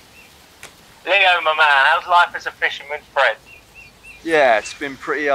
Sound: simon on phone

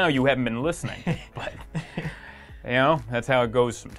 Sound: laughs

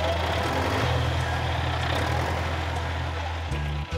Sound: engine rumbling

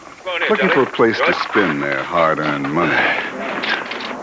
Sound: men chatting

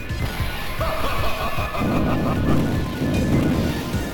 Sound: Magneto laughs

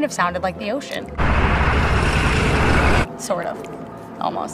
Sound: many car engines

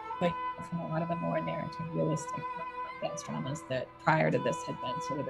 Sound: audio distortion

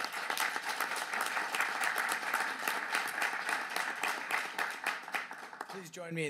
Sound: applause

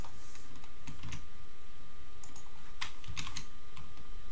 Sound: keyboard clicking

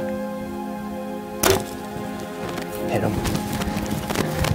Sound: bow pinging

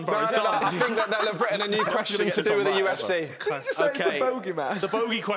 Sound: loud chattering

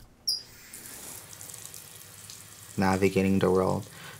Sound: water splashing

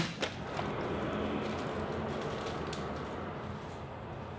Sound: traffic rushing

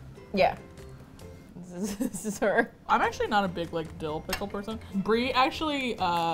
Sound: laughs

